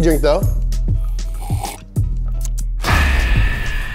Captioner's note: slurps